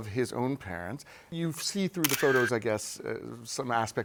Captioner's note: camera shutter clicks